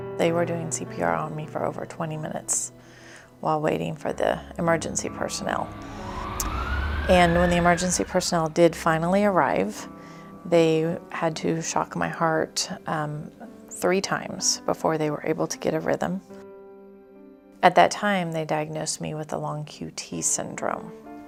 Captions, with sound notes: They were doing CPR on me for over 20 minutes while waiting for the emergency personnel. (sirens) And when the emergency personnel did finally arrive, they had to shock my heart three times before they were able to get a rhythm. At that time, they diagnosed me with a long QT syndrome,